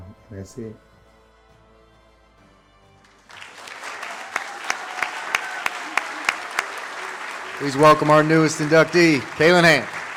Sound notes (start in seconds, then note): 3.0 audience claps